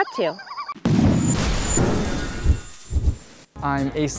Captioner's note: cannon Blast Sound